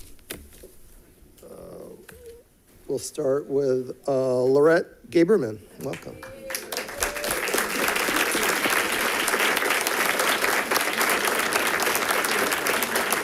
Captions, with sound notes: We'll start with Laurette Gaberman. Welcome. (people cheers and clapping)